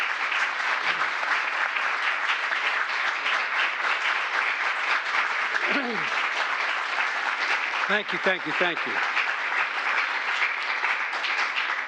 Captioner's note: applause